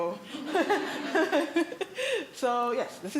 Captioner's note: laughter